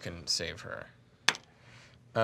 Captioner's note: dice clacking